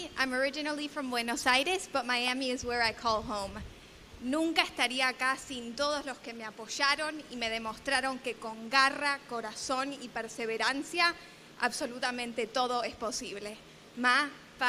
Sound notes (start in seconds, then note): 4.2 speaking spanish